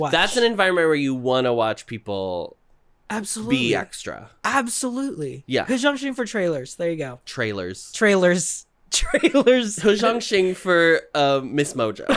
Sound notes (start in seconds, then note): 9.0 giggling